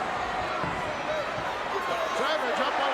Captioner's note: audience cheering